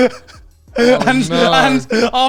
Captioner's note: all laughing